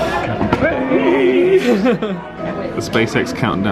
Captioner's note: laughs